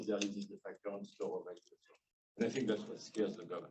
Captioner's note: speaking faintly